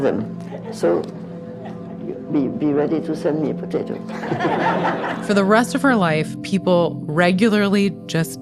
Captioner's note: laughter